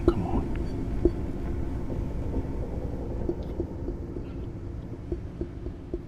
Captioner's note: faint tapping continues